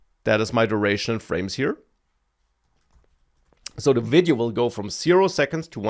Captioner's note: smacks lips